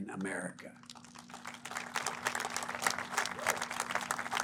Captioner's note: applause